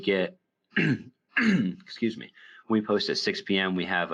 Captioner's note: clears throat